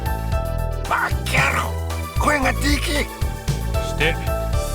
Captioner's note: hushed